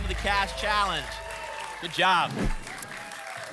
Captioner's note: applause and cheering; whoosh